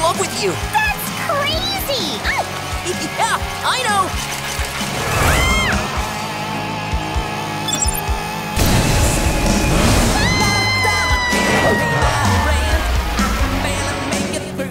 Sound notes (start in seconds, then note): 5.0 screaming; 10.0 screaming